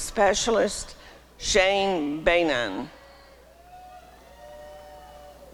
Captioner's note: applause and cheering